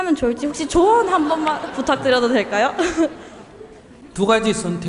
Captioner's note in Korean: 청중과 질문자 웃음